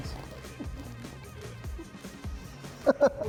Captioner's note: laughter